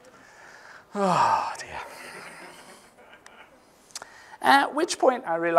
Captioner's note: sighing